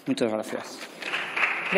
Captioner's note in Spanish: Aplausos